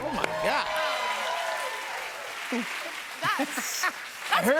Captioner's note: cheers and applause